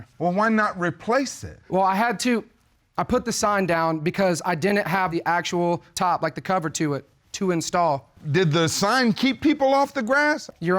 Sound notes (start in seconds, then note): none